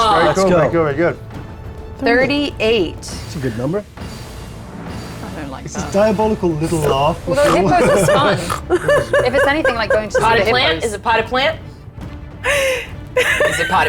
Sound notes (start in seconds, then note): 7.3 grunting